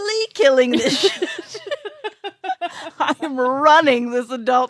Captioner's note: laughs